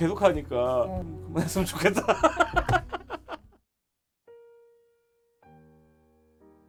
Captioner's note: laughing